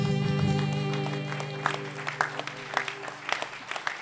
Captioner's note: applause